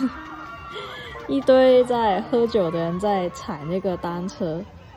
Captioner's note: laughs